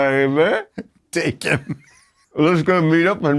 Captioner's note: laughs